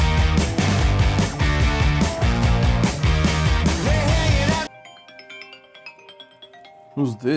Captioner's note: phone rings